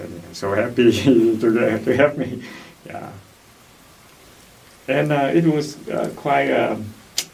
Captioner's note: laughs